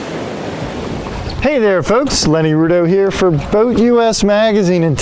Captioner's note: waves crashing